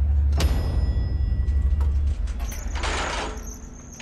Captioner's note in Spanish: Timbre del ascensor